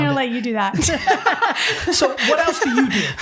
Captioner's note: both laughing